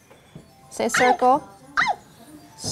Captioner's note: yelp from iPad audio